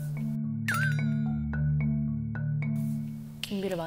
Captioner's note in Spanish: Nerviosa